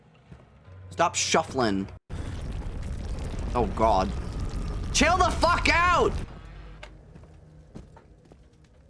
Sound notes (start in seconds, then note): 2.1 more rumbling